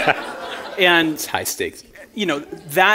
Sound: chuckle

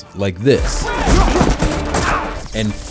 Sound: guns firing

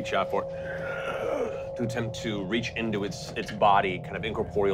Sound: wind blowing

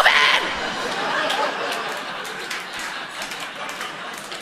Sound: audience laughing

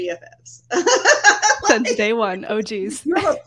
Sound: laughing

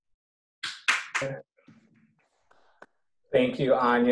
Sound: clapping

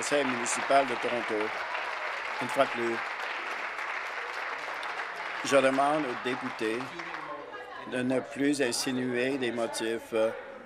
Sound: applause

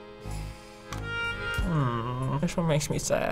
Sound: hums disapprovingly

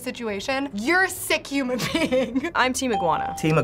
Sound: laughing

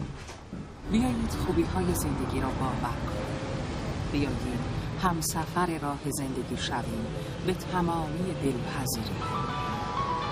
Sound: radio playing; mobile ringing

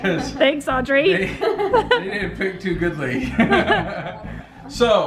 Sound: laughs

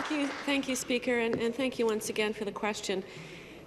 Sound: some Applause

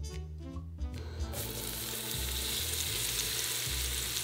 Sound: sizzling

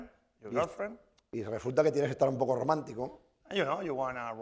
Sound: speaking spanish

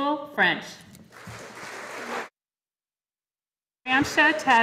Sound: audience applauding

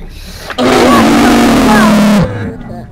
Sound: Mimicking shreks scream but demonic

